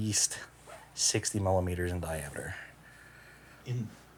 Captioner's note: none